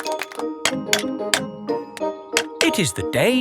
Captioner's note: clanking